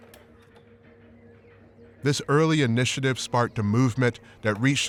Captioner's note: birds chirping